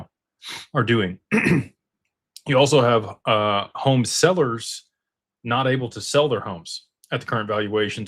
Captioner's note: snorts and clears throat